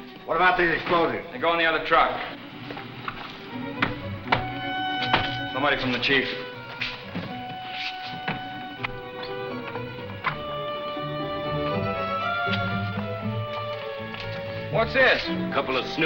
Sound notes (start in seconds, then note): 4.2 knocking; 11.0 dramatic music